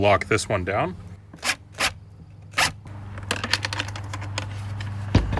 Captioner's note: drill whirring